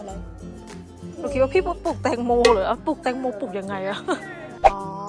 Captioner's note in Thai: หัวเราะ